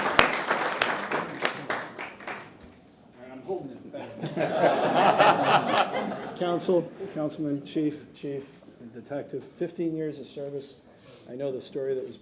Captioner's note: applause